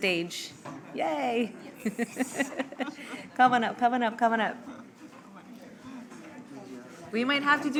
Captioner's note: laughs